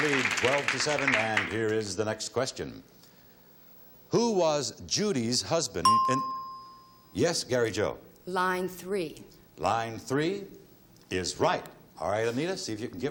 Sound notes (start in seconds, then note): 5.8 ding